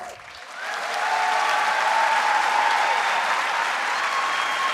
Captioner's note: audience cheering